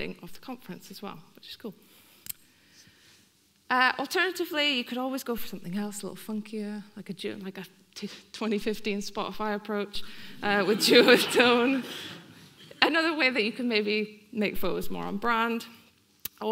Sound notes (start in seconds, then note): 10.5 audience laughing